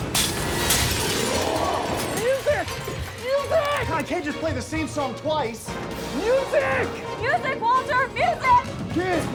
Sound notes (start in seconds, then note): 0.0 glass shatters